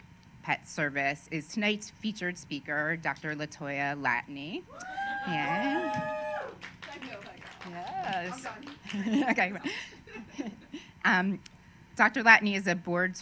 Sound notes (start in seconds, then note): 6.3 applause